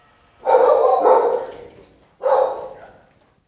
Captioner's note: dogs barking